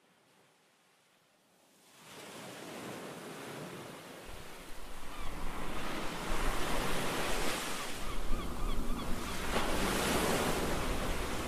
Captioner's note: sounds of ocean waves and seagulls